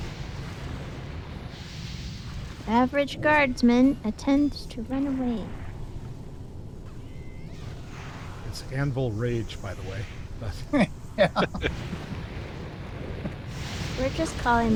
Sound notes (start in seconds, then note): 10.7 laughing